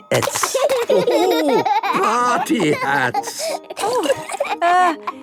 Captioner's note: laughing